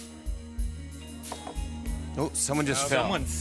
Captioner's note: clunk